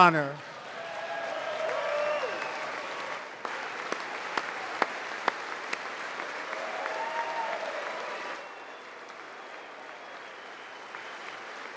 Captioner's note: applause